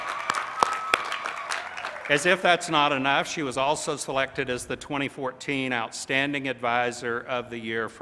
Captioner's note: applause